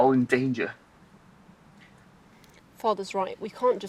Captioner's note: birds chirping